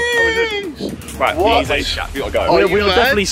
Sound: team mumbling

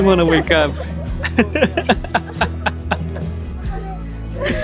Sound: laughs

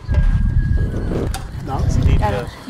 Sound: static hissing

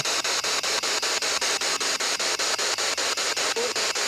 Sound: loud, choppy static

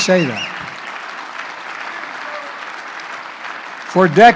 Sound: applause

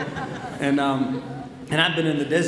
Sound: audience laughs

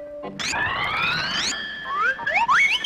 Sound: distorted bell ringing; slide whistle up nine times

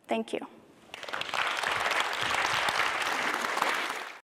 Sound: applause

